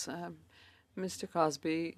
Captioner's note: speaking French